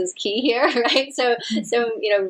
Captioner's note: chuckles